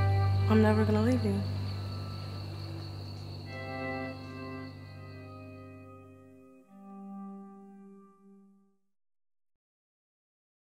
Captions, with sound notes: I’m never gonna leave you. [Birds chirping] [Music fades out]